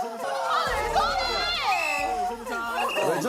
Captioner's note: whistle